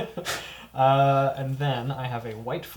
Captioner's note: all laugh